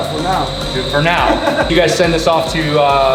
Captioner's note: laughs